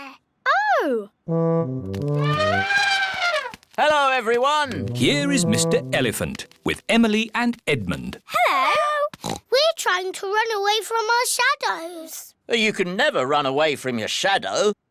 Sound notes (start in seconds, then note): 1.2 trumpets; 9.2 oinks